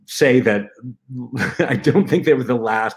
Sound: laughter

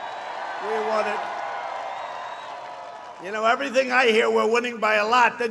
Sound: applause

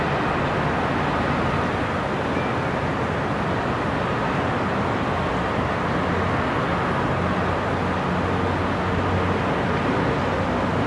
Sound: city sounds and distant cars

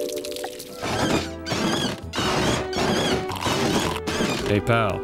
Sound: screeching

